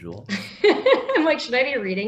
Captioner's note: laughs